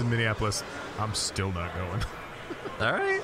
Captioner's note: laughing